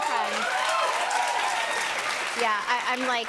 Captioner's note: cheers and applause